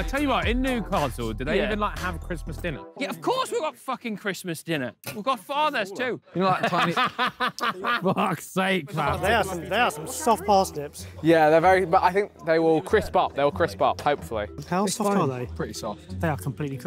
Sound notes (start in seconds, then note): 6.3 Ethan laughing